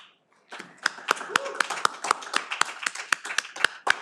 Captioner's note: all applaud